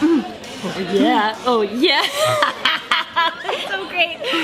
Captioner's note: laughs